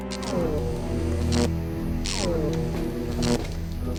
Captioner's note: electronic buzzing